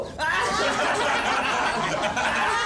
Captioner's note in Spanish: Todos ríen